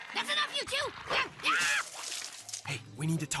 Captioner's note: Sierra Screaming, Rat Vomiting